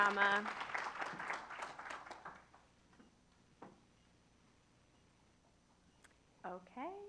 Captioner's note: applause